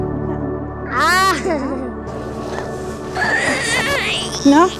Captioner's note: vocalizing